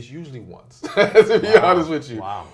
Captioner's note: laughs